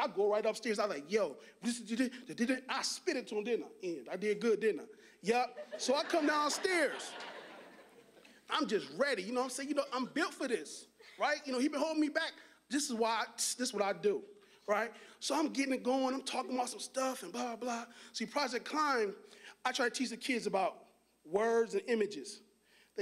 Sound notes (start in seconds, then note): 5.5 audience laughing